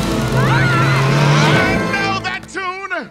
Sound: screaming

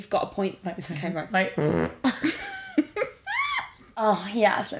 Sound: farts

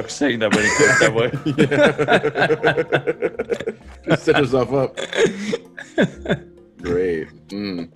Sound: laugh

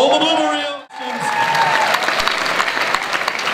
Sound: audience applauds and cheers

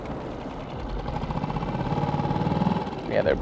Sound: boat engine rattling

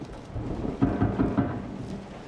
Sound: loud banging

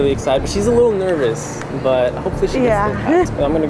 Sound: indistinct chatter

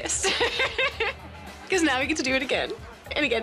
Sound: laughs

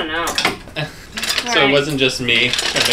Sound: chuckles

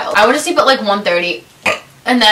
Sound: burps

